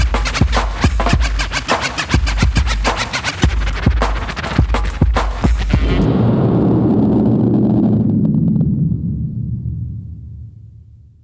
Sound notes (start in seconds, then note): 5.8 explosion rumbles